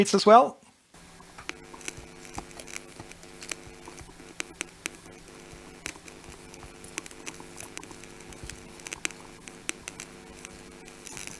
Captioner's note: keyboard clicking